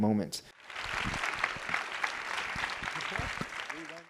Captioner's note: audience applauds